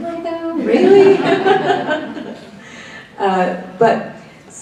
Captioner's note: laughs